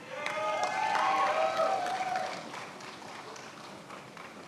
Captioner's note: attendees applauding